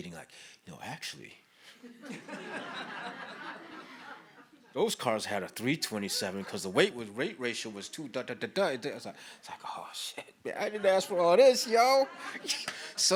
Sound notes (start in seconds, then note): 1.8 audience laughs